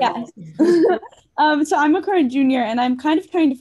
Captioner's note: laughs